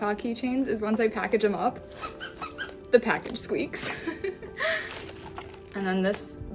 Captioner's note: squeaking noises